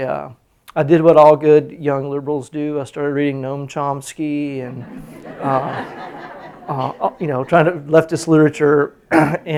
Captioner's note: laughter